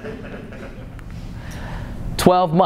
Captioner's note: laughter